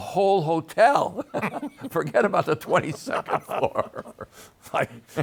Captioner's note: both laughing